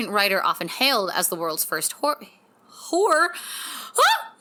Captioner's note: gasps